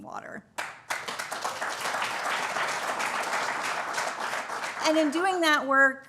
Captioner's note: applause